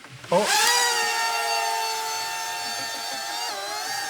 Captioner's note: drone whirrs threateningly; one person is laughing